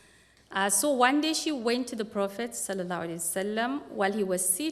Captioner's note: non-english speech